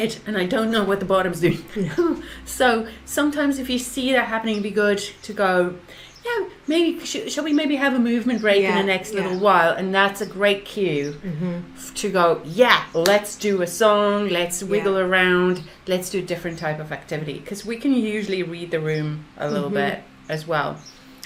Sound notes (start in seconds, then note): 1.3 laughs